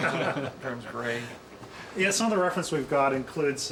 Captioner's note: laughing